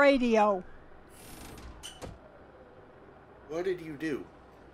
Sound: door opening

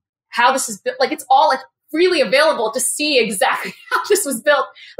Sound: laugh

